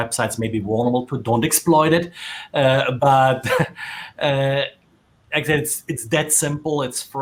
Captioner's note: laughing